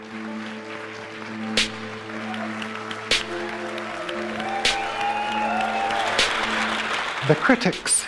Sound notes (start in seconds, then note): 0.0 clapping and cheering